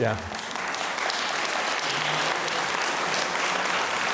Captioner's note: audience applauds